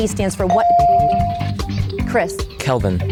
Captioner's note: bell dings